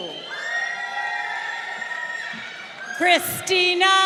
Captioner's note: crowd cheering